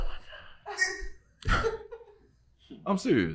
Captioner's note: team laughing